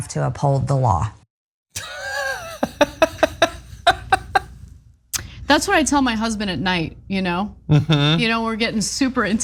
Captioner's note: laugh